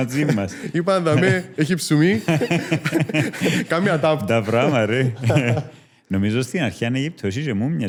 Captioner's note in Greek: γέλια